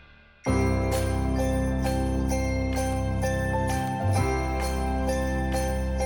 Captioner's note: bells jingling; upbeat festive music